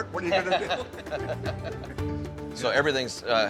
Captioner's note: both chuckling